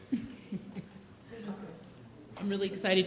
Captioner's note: laughs